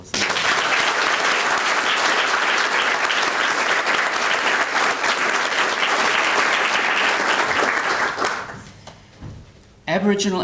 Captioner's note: applause